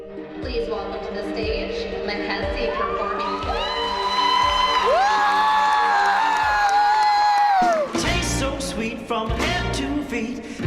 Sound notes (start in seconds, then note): 3.2 applause and cheers; 8.5 singing